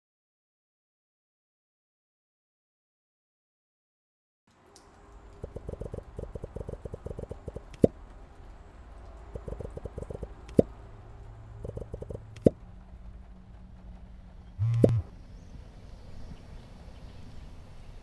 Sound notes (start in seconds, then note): 5.4 texting bubble popping sounds; 14.6 buzzing